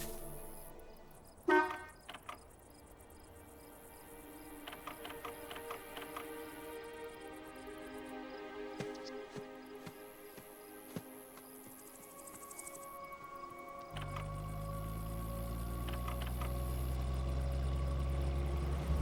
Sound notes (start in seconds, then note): 1.4 horn honking; 4.7 dramatic music